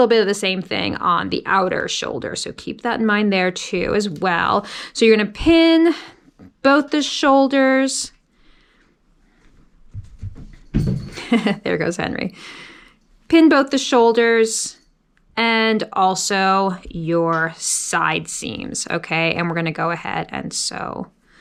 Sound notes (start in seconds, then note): 11.0 chuckles